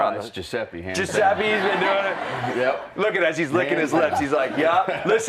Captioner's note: laughter